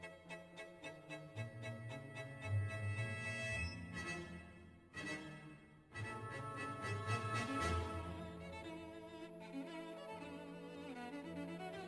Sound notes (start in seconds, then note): none